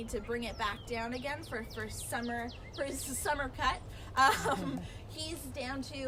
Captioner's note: laughing